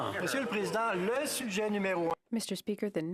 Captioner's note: speaking French